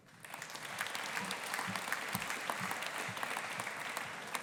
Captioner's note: audience applauding